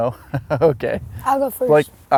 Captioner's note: laughs